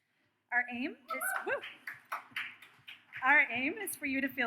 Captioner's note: audience cheers; audience claps